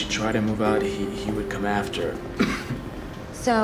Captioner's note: coughs